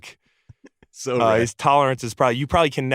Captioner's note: laguhs